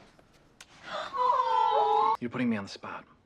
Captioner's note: GIRLS go AWWWWW